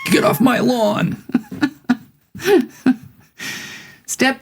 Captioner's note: laughing